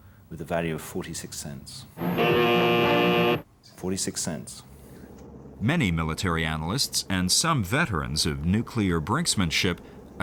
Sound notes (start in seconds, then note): 2.0 alarm blaring